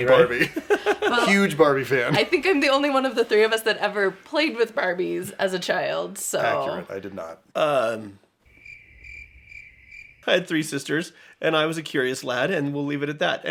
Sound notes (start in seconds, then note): 8.4 crickets